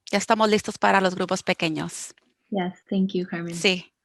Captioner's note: speaking foreign language